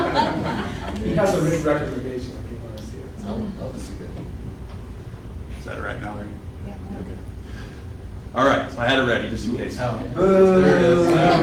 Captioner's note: laughter